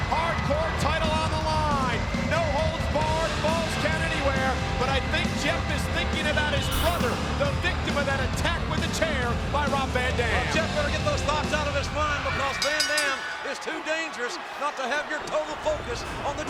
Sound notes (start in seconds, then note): 12.3 bell ringing